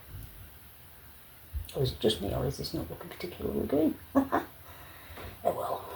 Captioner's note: laughing